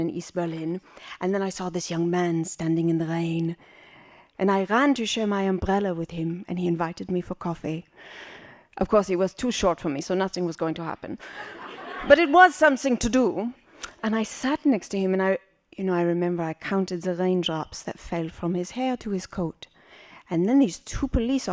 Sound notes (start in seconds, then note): 11.3 laughing